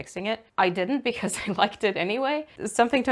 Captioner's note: laughs